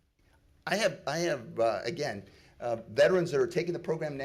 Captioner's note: none